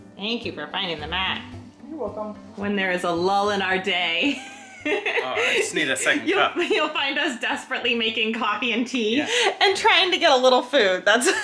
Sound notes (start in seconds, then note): 4.2 laughing